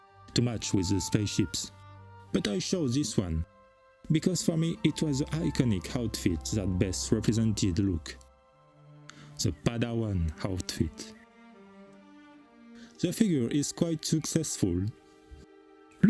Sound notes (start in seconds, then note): none